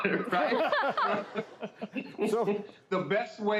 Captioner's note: all laughing